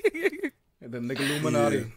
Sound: laugh

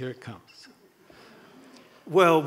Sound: audience chuckles

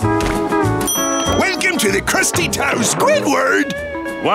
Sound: none

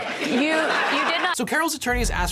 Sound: audience laughing

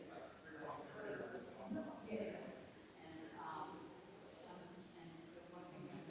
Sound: people chattering distantly continues

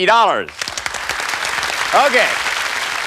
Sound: cheers and applause

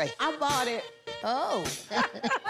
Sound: laughs

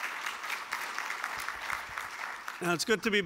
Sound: applause

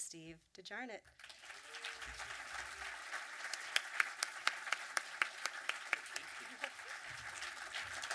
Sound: audience clapping

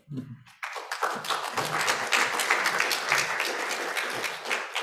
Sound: applause

